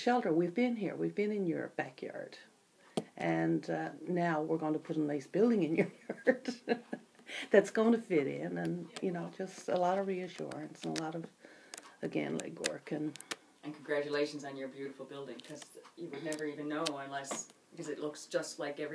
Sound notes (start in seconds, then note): 5.9 laughs